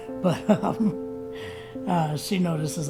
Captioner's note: laughs